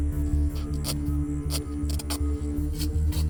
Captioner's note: ripping